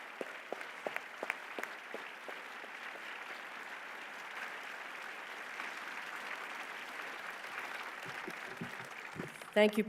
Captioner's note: applause